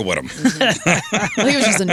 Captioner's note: laughing